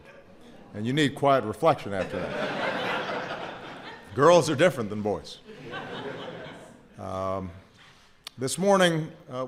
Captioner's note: laughter